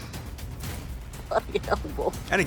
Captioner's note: chuckles